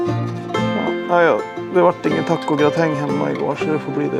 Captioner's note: phone